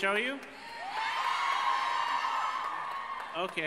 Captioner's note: crowd cheers